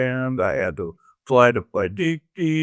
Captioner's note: humming